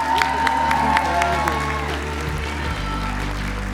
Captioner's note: applause